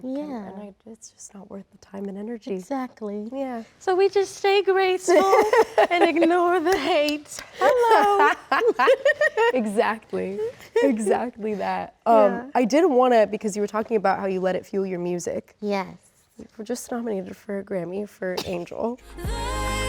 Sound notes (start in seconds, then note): 7.5 Rachel laughs; 7.5 laughs